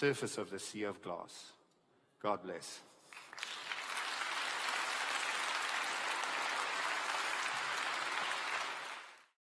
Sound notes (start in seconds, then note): 3.0 applause